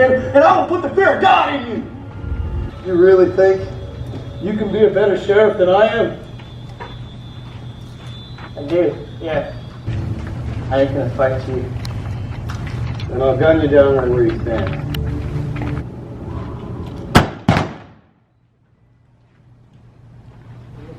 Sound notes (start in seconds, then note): 17.1 gun blasts